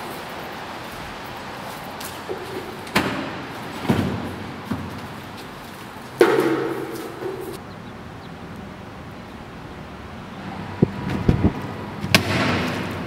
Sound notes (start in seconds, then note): 2.5 lid opens and closes; 7.0 footseps